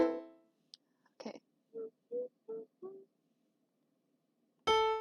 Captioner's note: humming